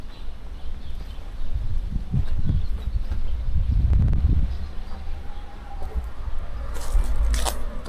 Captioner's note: wind blowing; birds chirping